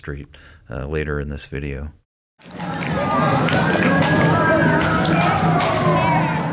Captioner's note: including people in parade clapping and singing; ambient parade and city sounds